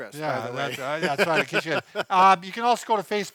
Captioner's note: laughter